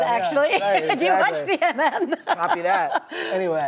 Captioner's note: laughing